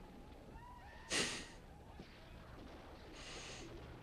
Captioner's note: Mitch chuckles softly